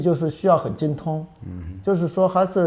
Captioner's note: nonverbal grunt as interjection